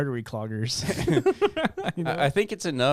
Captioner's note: laughing